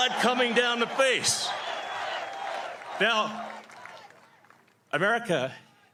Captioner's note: cheering